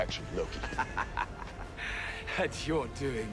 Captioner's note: loki laughing